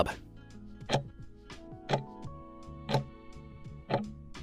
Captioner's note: timer ticking